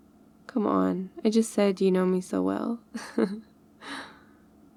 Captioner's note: laughs